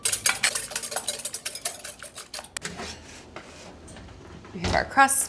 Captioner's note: whisk clangs on bowl